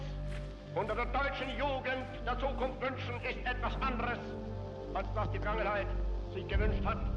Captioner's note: hitler speaking german